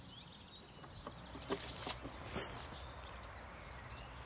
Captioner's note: birds chirping